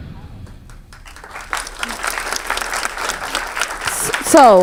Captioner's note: audience applauds